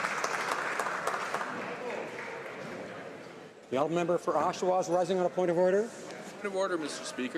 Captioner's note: some Applause